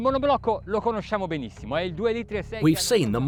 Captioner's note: speaking foreign language